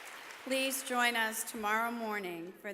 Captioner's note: applause